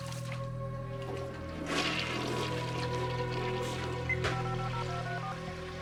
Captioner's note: toilet flushing; phone dialing